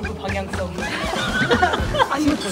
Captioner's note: burst into laughter